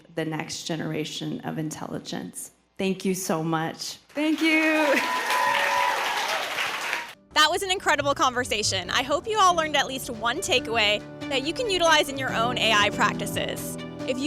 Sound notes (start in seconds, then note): 4.2 audience cheering and applauding